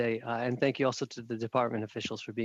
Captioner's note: speaking French